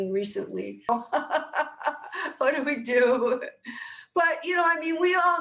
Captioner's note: laughing